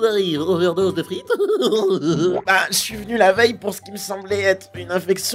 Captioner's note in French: rires & pète